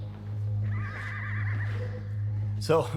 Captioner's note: uptempo synth music; horse neighing